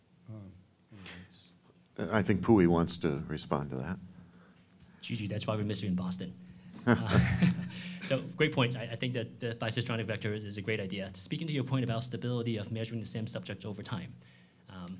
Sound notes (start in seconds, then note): 6.8 laughs